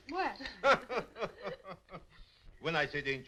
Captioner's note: laughing